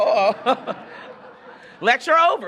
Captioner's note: audience laughing